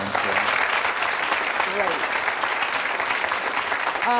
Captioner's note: audience applauds